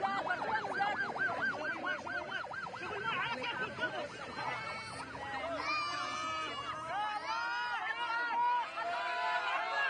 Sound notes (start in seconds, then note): 5.2 babies cry; 8.2 refugees shout